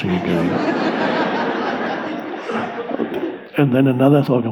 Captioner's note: audience laughs